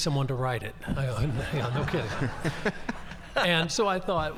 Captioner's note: audience laughing